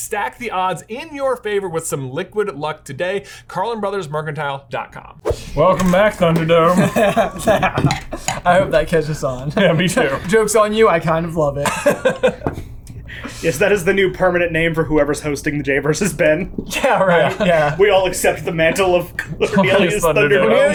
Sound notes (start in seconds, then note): 5.2 whooshing; 6.6 laughing; 11.6 laughs